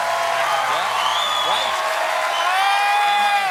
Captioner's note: cheers and applause